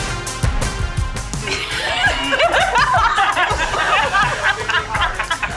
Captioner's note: players laughing